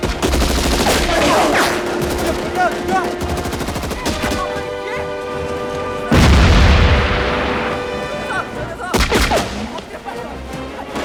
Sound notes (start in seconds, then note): 1.9 machine Gun Fire; 4.2 yelling In Korean; 7.9 man Yelling In Korean